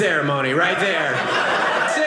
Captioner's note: audience laughing